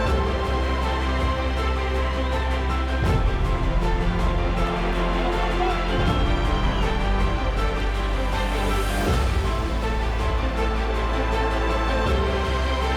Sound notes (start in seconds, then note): 2.9 distant audience cheering